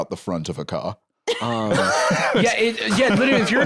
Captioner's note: laughs